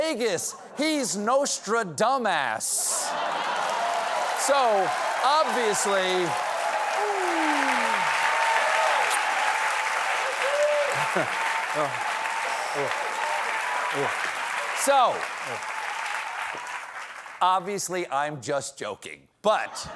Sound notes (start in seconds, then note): 5.7 cheers and applause